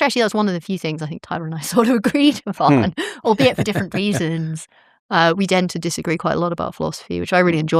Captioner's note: laughter